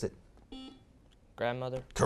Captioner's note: beeping